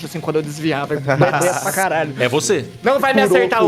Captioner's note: laughs